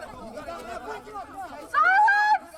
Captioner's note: all murmuring